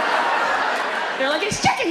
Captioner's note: audience laughs